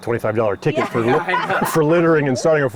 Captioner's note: group laughs